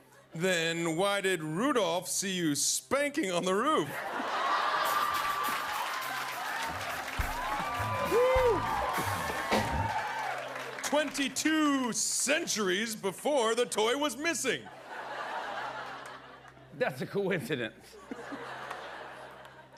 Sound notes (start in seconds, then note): 3.8 laughter; 7.7 cheers and applause; 14.7 laughter